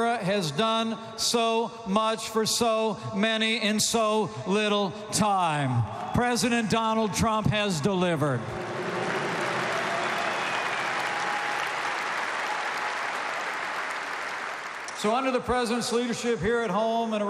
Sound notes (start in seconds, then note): 8.4 applause